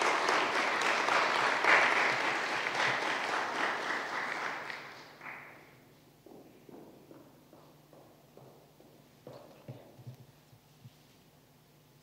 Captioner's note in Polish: oklaski